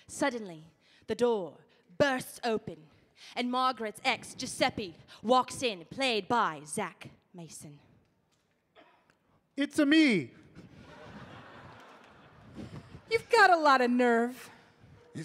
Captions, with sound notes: - Suddenly, the door bursts open and Margaret's ex Giuseppe walks in played by Zach Mason. - It's me! [audience laughing] - You've got a lot of nerve.